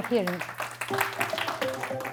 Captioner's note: applause